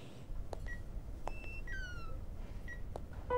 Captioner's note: Footsteps; Beeping sound; Door opening